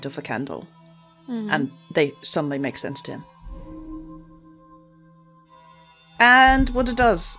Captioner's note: fast, humming whoosh